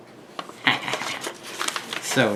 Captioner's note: laughs